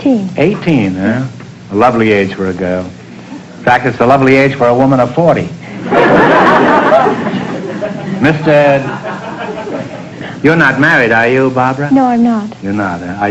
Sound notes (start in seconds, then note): 5.8 audience laughter